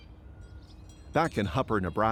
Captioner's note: bells chime